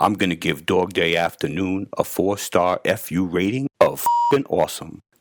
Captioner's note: beep